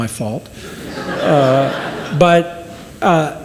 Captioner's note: audience laughs